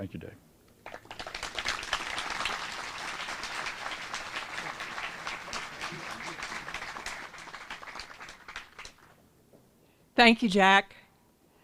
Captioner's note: applause